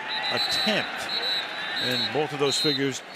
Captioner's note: whistle blows